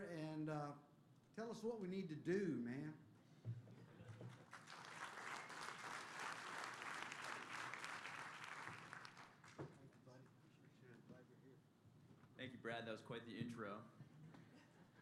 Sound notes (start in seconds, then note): 3.8 laughter; 4.2 applause